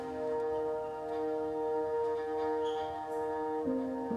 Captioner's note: bird chirps